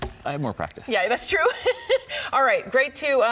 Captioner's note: chuckles